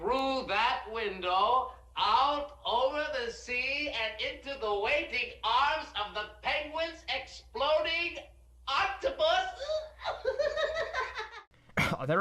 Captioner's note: laughs